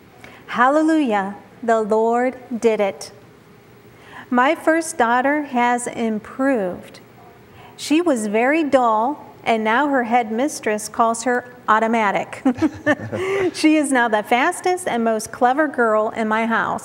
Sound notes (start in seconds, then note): 12.4 giggling